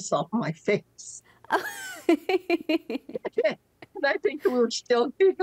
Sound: laughing

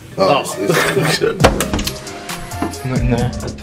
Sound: laughing

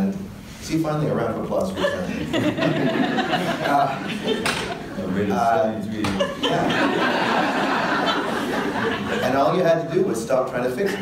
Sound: audience laughter

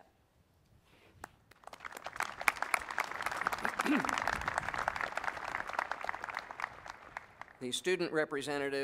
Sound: applause

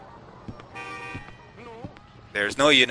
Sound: none

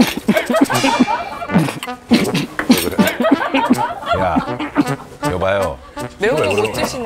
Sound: cough

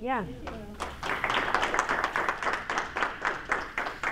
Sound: applause

